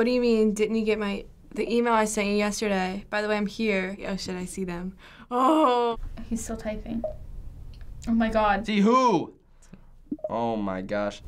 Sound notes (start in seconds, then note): 5.3 scared